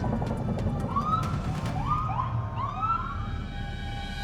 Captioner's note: siren whooping